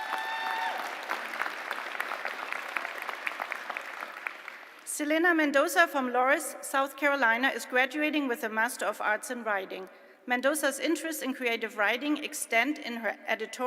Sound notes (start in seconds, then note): 4.6 applause